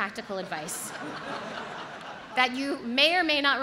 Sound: audience laughs

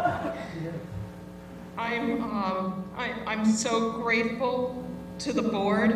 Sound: laugh

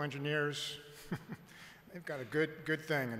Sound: chuckle

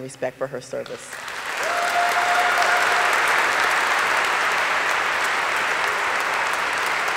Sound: audience applauding; audience cheering

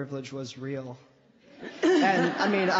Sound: laughter

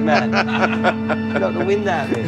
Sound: laughs

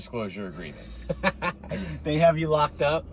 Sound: laughs

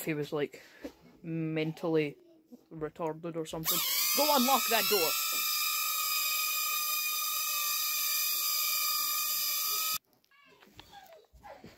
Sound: loud wurring

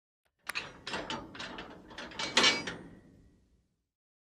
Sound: metal lock closing

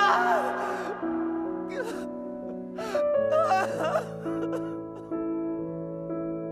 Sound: more crying

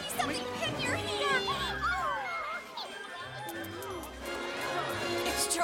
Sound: kissing

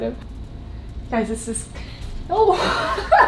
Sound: laughing

